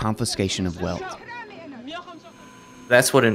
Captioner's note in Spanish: mujeres hablando débilmente